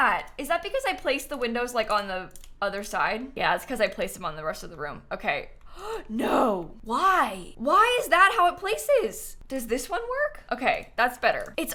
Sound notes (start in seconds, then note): 5.7 gasps